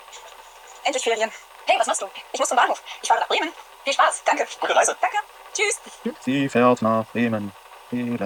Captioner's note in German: Voice-over sehr schnell vorgespult